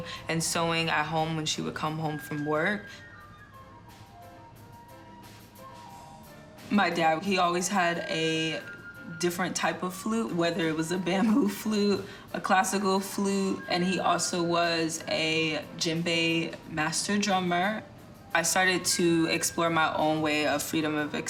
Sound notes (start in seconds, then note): 3.0 lively music; 11.2 laughs